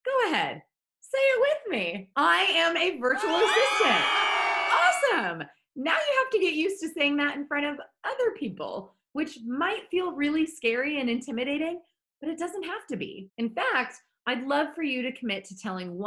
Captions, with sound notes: Go ahead, say it with me. I am a virtual assistant. (crowd cheering) Awesome, now you have to get used to saying that in front of other people, which might feel really scary and intimidating, but it doesn't have to be. In fact, I'd love for you to commit to telling